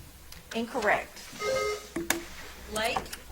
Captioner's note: bell ringing